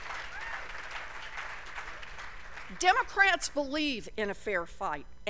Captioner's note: applause